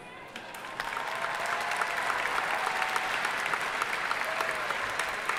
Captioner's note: audience applauding